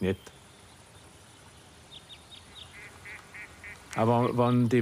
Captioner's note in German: Vogelzwitschern, Entenschnattern